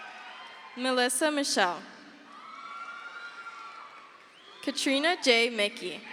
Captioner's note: crowd cheers